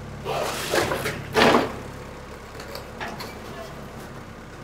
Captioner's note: wood thudding